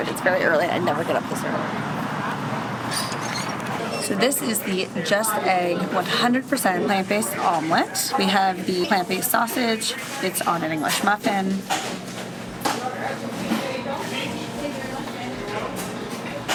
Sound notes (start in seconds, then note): 2.9 door squeaking